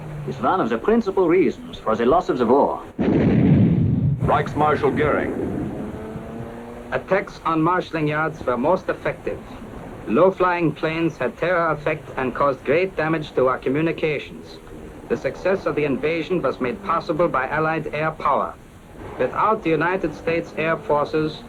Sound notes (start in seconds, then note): 3.0 explosion; 6.7 German-accented voice